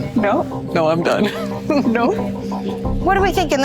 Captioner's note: laughs